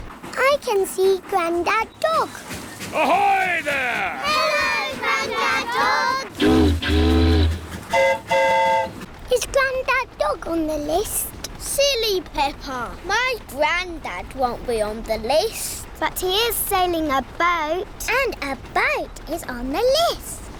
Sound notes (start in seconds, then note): 6.3 boat horn honks; 6.3 train horn toots